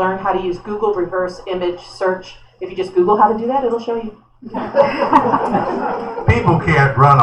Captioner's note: laughter